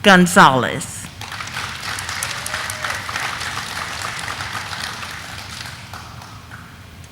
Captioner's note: audience applauding; audience cheering